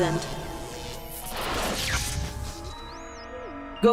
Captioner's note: static noise